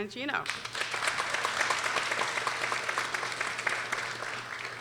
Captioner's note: people applauding